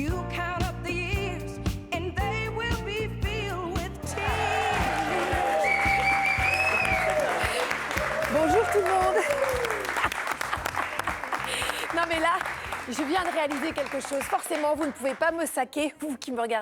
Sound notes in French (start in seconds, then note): 6.4 chant; 6.7 acclamation; 7.4 applaudissements